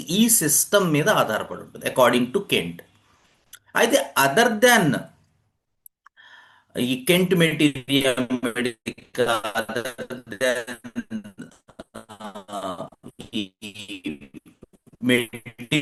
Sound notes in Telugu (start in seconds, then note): 10.6 నవ్వు